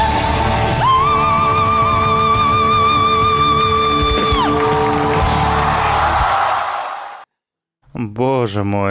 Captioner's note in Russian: ликование